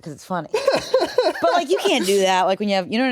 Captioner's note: laughs